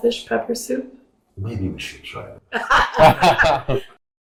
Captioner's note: laughter